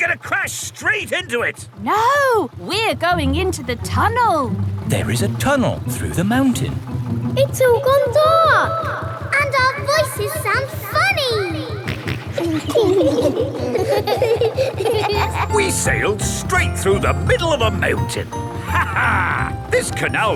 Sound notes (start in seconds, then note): 7.7 echoes; 12.2 kids laughing; 12.2 snorts; 19.5 laughs